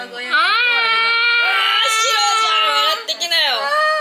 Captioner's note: laugh